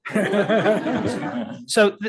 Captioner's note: attendees laughing